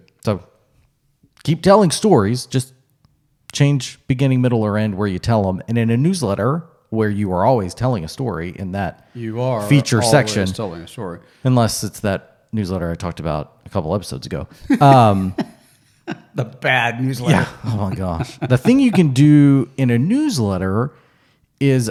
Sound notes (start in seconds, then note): 14.6 laughs